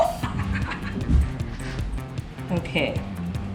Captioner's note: laughing; upbeat music